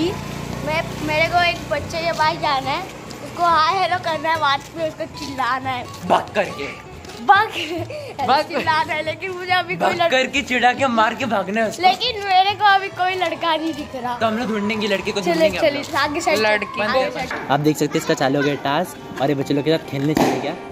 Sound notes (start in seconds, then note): 7.4 laughs; 7.5 slight laugh